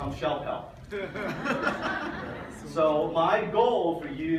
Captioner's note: audience laughs